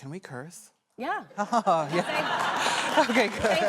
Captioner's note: laughter